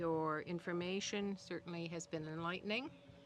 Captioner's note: speaking French